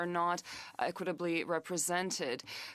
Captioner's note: speaking French